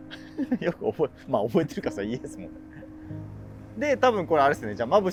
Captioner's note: laughing